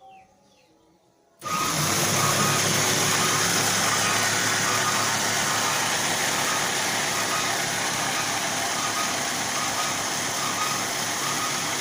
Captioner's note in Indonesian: suara mesin